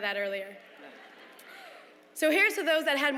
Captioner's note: laughter